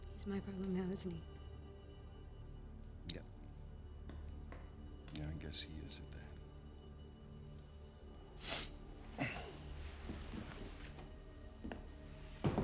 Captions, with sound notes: - He's my problem now, isn't he? - Yep, yeah, I guess he is at that. (sniffs)